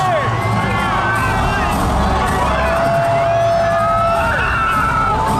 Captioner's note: crowd cheering; people laughing